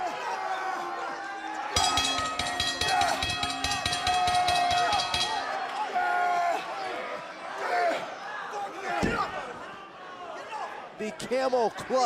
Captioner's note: bell ringing